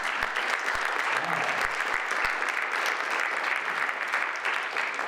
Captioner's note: audience applauds